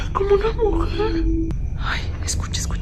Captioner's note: moans